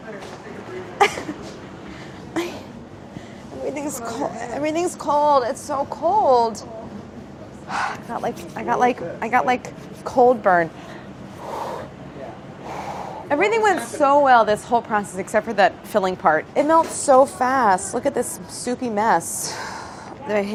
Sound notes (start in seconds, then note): 1.6 grunts; 11.4 blows on hands